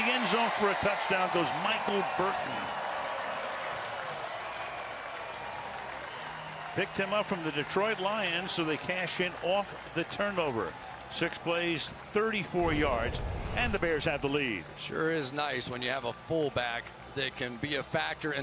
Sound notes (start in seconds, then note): 3.0 crowd cheering